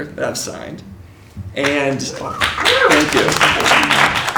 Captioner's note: applause